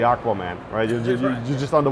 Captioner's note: laughs